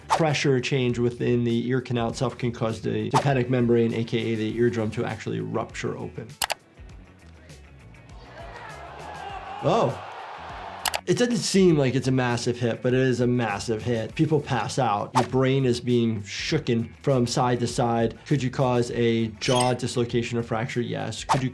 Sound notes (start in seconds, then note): 6.4 camera shutter snaps; 8.1 crowd shouting